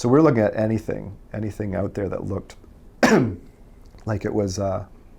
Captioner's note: coughs